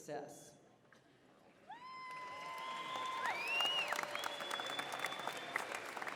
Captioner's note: applause, cheering